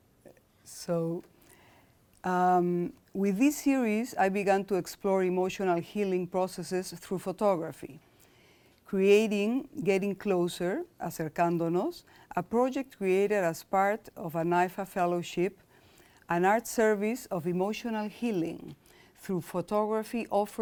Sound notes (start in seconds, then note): 11.2 speaking in foreign language